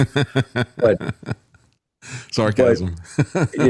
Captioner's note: laughing